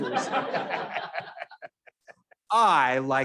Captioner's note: all laughing